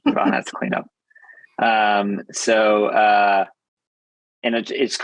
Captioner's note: chuckling in the background